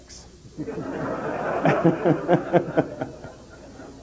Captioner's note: general laughter